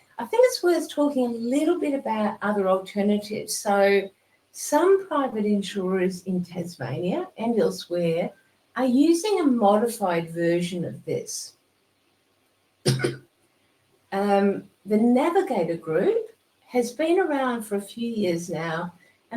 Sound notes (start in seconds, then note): 12.8 coughing